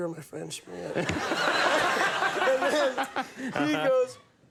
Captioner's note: audience laughing